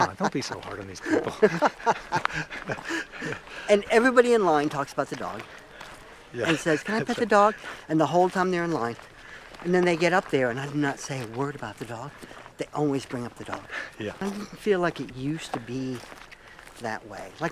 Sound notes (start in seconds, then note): 1.9 both laugh